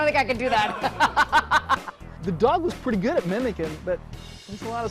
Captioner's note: laughter